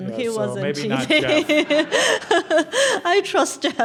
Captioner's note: laugh